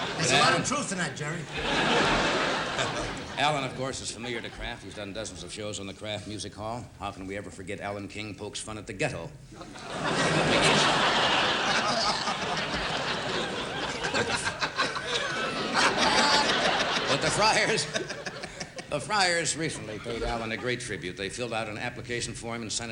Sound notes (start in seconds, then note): 11.9 laughter